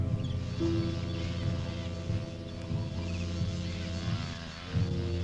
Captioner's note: muffled wasps buzzing